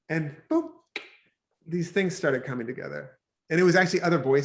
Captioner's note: clicks tongue